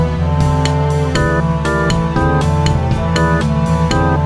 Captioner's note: slaps